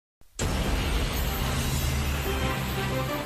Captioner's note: plane engine roaring